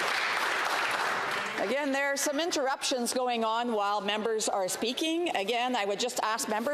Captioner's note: some Applause